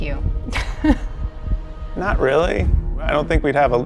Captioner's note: chuckles